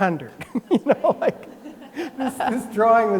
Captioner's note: laugh